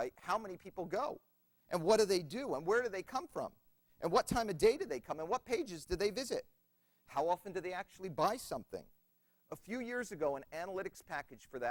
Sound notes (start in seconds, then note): none